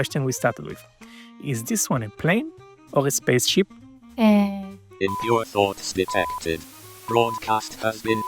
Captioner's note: she takes a breath, starts to answer…